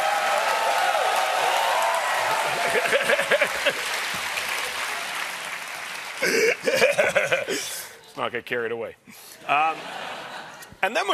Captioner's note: cheers and applause